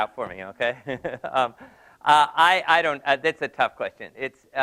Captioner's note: laugh